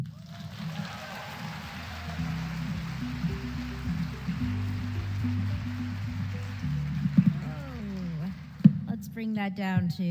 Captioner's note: applause